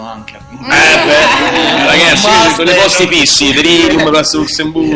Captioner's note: laugh